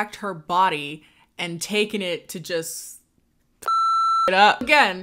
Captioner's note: beep